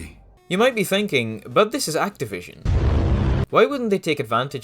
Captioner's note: thud